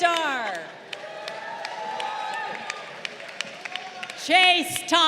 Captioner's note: crowd applauding